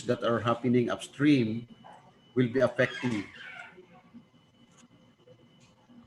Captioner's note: audio cuts off